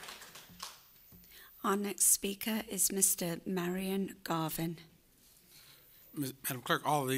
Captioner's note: applause